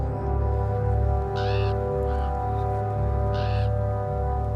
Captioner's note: crow cawing